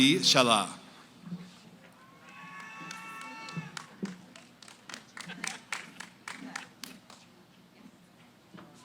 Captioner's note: cheering, applause; background conversations